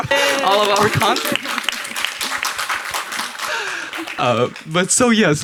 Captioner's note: audience and panel applauds